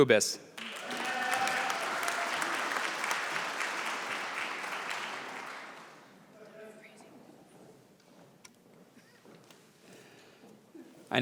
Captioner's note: applause